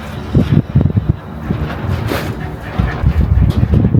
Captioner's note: the wind strikes again